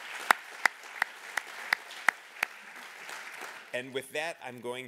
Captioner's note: applause